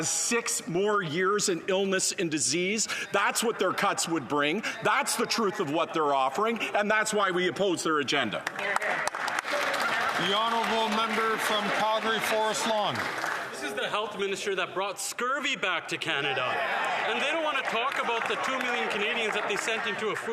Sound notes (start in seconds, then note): 13.3 some Applause; 16.7 some Applause